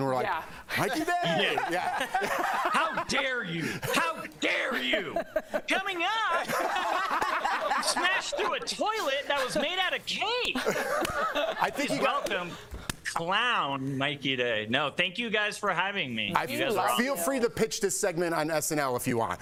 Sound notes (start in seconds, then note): 10.5 laughter